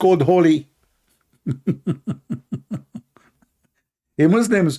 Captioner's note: Ketawa